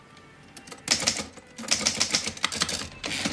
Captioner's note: typing